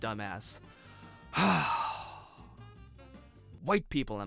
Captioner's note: exasperated sigh